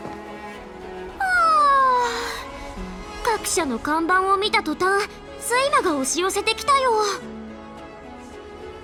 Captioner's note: yawn